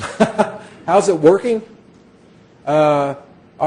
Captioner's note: laughing